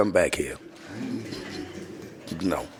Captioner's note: laughing